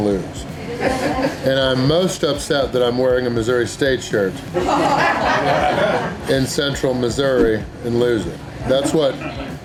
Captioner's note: crowd laughter; haha